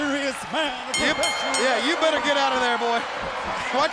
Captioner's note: bell rings